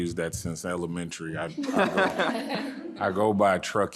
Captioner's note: audience laughing